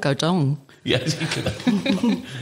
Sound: all laugh

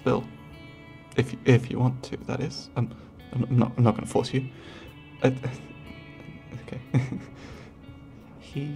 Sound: stuttering

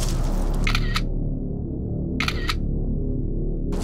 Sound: camera snapping

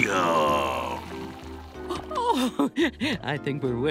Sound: giggling

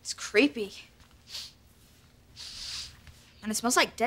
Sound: sniffing

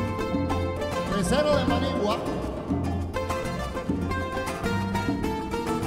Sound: speaking foreign language

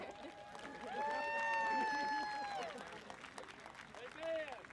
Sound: audience applauding

